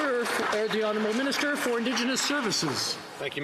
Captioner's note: some Applause